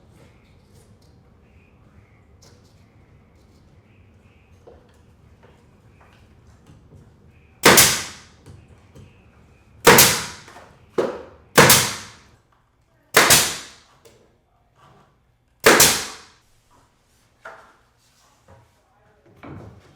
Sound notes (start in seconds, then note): 7.6 gun nailing